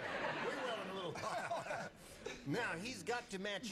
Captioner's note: laughter